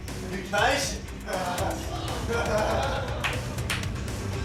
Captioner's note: laughter